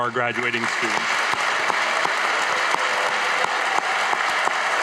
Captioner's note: audience applauding